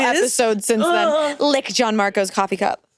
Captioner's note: groans